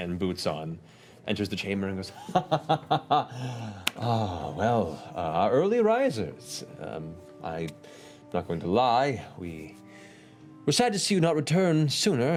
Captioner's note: laughter